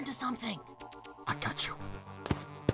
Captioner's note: whispering; whispering back